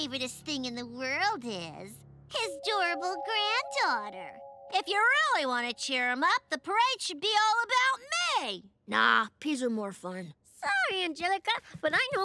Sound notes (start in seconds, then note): none